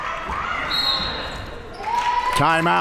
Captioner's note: whistle